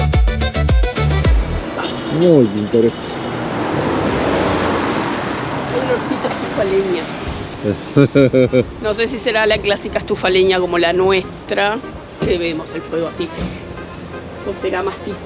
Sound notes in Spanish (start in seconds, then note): 7.6 risas